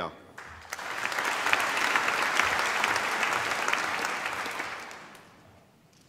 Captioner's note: applause